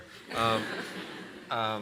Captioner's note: laughter